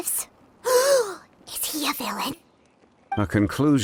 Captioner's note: gasp